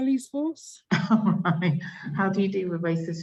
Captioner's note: laughs